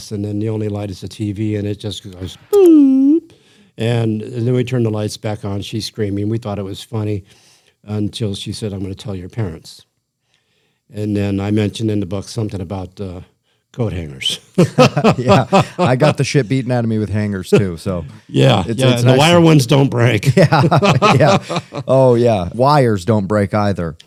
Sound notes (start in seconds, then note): 14.5 laughter; 20.2 laughter